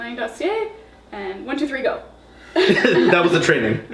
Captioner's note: laughing